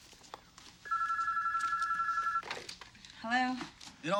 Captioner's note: telephone ringing